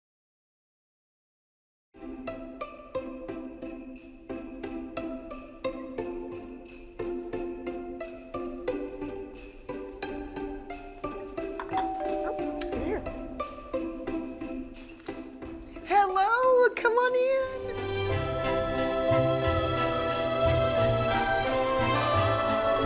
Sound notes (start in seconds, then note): 2.4 uplifting festive music; 11.6 doorbell rings